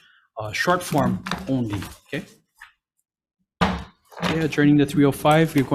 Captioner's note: gavel bangs